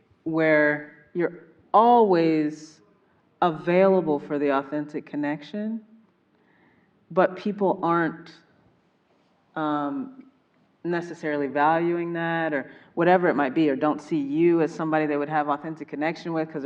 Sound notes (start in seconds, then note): none